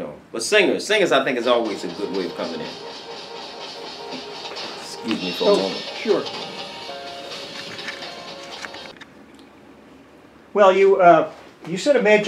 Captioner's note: phone ringing. Excuse me for a moment